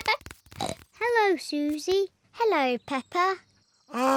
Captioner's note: both giggle; snorts